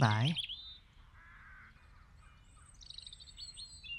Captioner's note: birds chirp